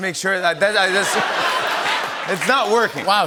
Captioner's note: laughter